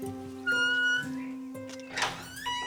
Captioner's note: door creaking; gate squeaking